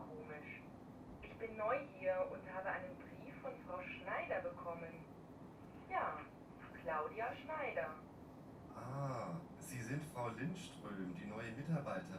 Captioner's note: textbook audio is played